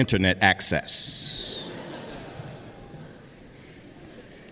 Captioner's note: audience laughs